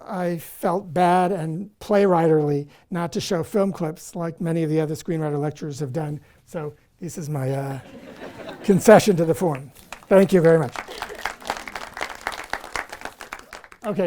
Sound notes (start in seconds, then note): 9.0 audience applause; 9.4 applause